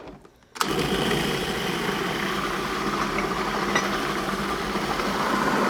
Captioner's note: food processor whirring